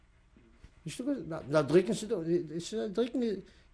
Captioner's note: non-english speech